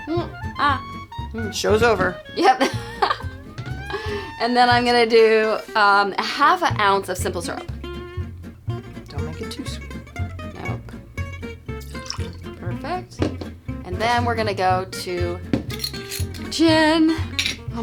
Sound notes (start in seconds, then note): 2.4 laughing